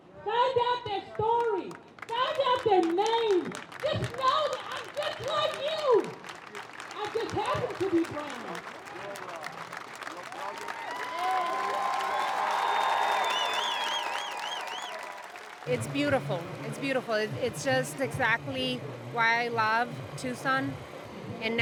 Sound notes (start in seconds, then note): 6.1 crowd claps; 8.6 crowd claps and cheers